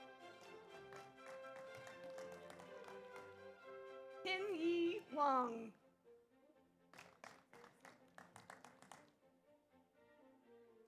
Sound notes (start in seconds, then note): 0.0 audience applauds; 6.9 audience applauds